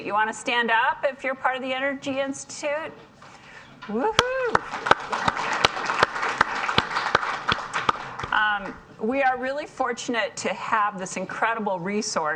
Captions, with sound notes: you wanna stand up if you're part of the Energy Institute. Woohoo. (audience applauds) We are really fortunate to have this incredible resource